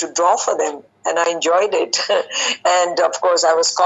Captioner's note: giggling